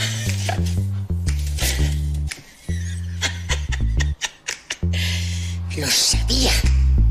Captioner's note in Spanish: ríe de forma malvada